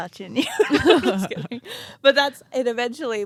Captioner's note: both laughing